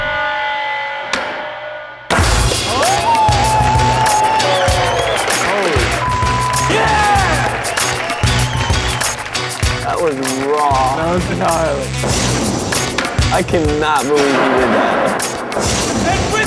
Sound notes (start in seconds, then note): 2.8 cheering; 7.6 cheering; 11.8 intense music